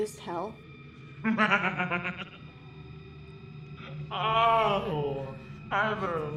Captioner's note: demon laughing